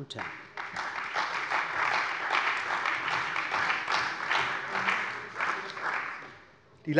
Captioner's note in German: Beifall bei der CDU und dem BÜNDNIS 90/DIE GRÜNEN